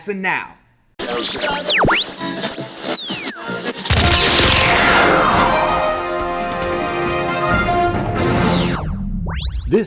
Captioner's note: sound Effects